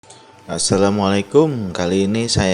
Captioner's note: Arabic